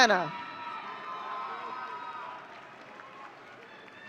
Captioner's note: audience cheering